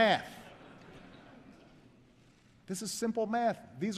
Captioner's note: laughter